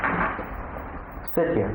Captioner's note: the chair creaks